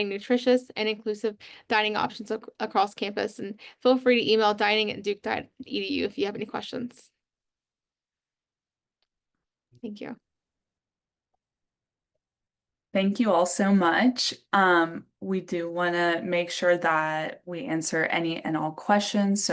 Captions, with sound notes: nutritious and inclusive dining options across campus. And feel free to email dining@duke.edu if you have any questions. [pause] Thank you. [silence] - Thank you all so much. We do want to make sure that we answer any and all questions.